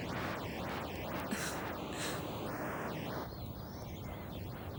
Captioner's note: Trina chuckles